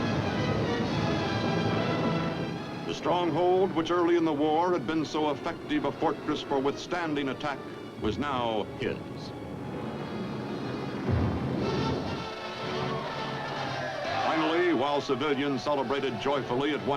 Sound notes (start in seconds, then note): 12.6 cheers